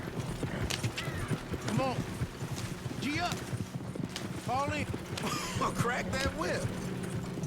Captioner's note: coughs